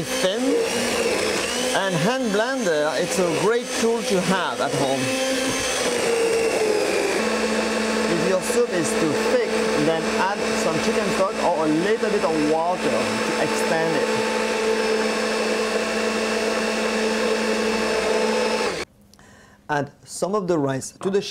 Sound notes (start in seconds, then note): 16.0 blending sounds